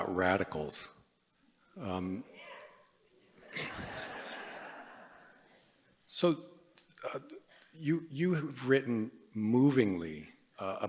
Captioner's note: laughter